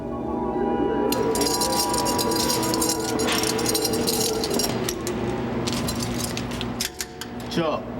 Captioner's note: key chain rattling